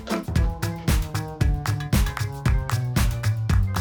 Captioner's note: podcast plays in the distance